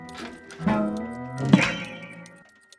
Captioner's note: boing